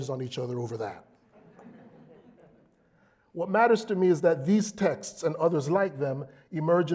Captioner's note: laugh